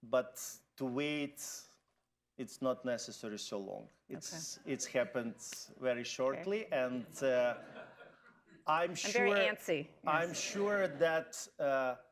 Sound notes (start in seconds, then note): 9.5 laughter